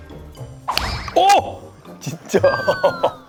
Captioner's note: whack